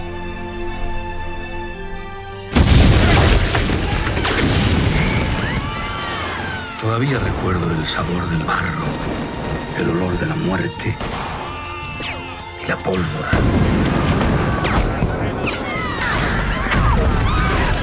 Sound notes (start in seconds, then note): 2.5 bombs; 2.5 gunfire